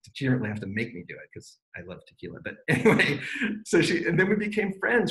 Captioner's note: laughs